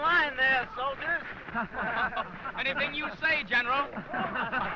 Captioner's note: laughing